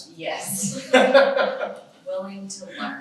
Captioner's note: laughs